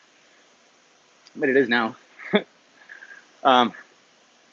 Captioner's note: laughs